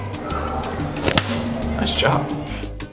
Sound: hand smacks

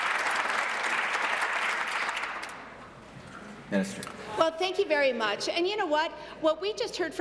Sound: some Applause

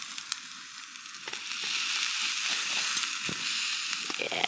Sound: sizzle

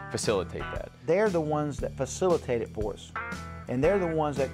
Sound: voiceover

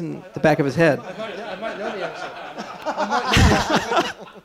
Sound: laughter

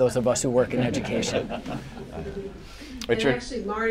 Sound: laughter

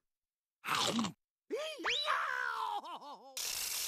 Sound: screaming

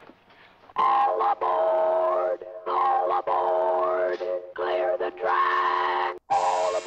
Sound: distorting electronically

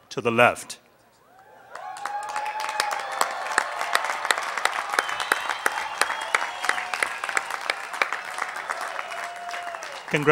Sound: applause

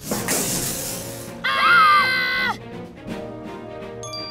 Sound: hissing; screaming

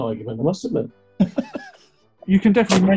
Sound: chuckling

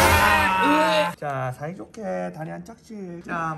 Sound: about to cry

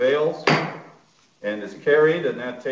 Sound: gavel hitting

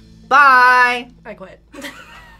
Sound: laughs

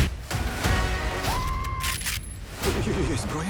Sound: screaming; gun cocks

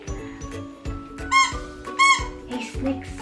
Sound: squeaking

